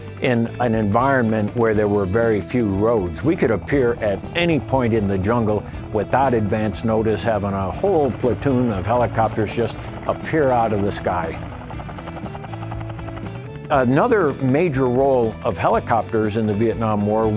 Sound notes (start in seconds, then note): 11.7 helicopter blades whirring